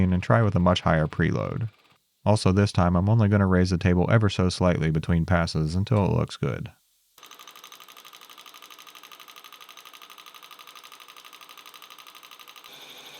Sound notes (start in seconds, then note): 7.3 burnisher whirring